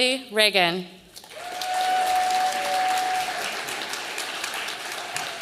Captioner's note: audience applauding